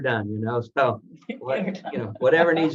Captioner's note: laughs